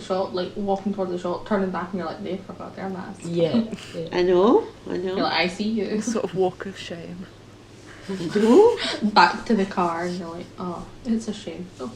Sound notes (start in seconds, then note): 7.9 laughter